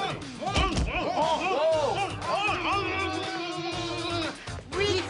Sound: both grunting

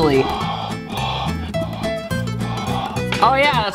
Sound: blowing on glasses

